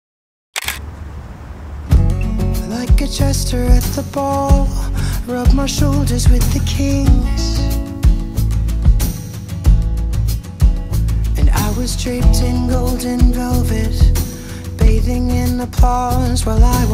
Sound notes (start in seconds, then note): 0.5 camera clicking; 2.0 light guitar music